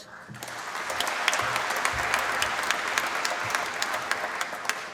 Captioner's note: applause